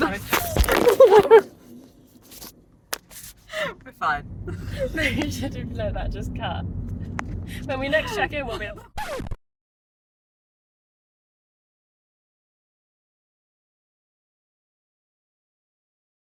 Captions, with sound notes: (light tumbling sounds) - We're fine. - No, you should replay that, just cut. When we next check in we'll be- (record scratch)